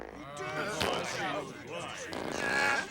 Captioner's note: farting sounds; board members murmuring